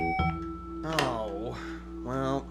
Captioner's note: beep!